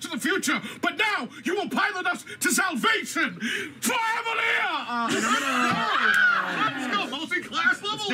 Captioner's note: yelling